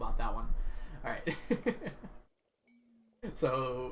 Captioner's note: laughs